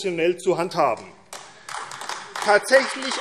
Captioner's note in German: Beifall AfD